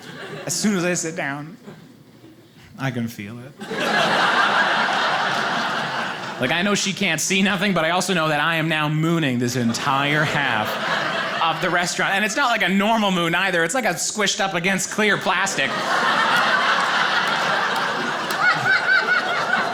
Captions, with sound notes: As soon as I sit down, I can feel it. (audience laughing) Like I know she can't see nothing, but I also know that I am now mooning this entire half of the restaurant. And it's not like a normal moon either, it's like a squished up against clear plastic. (audience laughing)